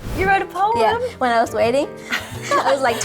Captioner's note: laughs